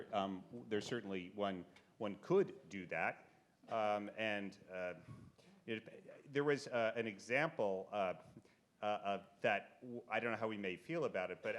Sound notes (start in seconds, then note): none